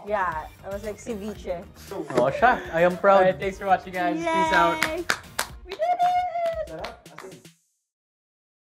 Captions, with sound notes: - Yeah. I was like ceviche. - All right. I am proud. - Thanks for watching, guys. Peace out. (applauds) - We did it! - It's really delicious.